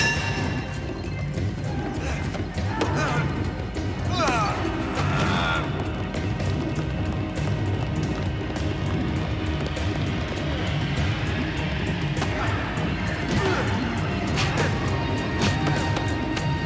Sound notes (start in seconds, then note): 0.1 clinks; 4.2 groans